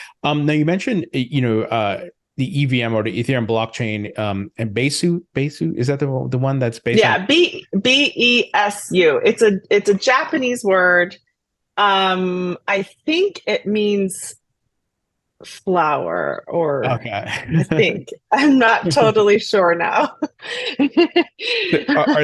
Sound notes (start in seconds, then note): 16.8 laughs; 20.3 laughs